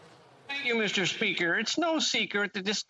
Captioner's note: speaking Alternative Language